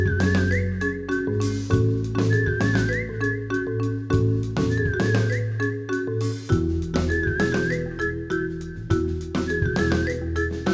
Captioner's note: whistling